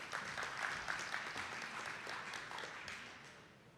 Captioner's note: attendees clapping